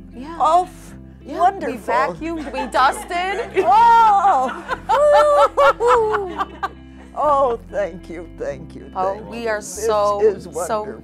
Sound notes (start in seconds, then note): 4.7 laughter